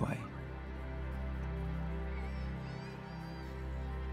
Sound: children laughing

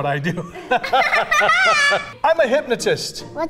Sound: laughs

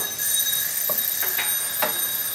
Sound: timer rings

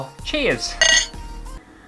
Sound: clink

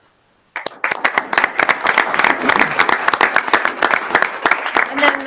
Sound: audience applauding

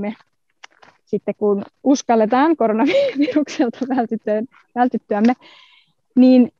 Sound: laughs

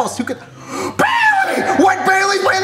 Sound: gasps

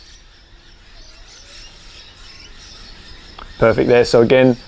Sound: birds chirping

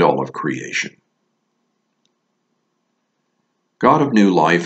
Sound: A brief silence

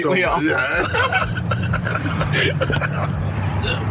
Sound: men laughing

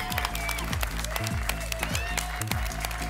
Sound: applause and cheering

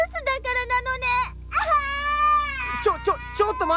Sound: crying

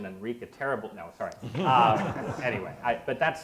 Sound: audience laughs

